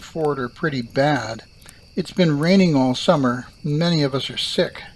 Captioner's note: campfire crackles and crickets sing